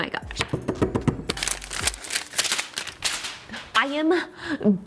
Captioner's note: paper rustles